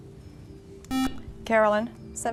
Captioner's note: buzzer